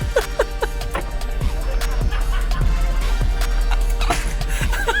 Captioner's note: laughing out loud